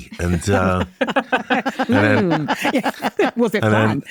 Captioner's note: all laughing